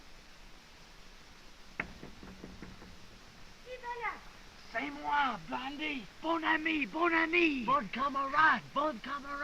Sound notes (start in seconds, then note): 1.8 knocking on door; 3.4 woman speaking in french; 4.6 boys speaking french